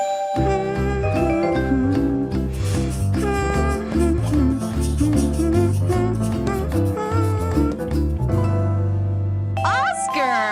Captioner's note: humming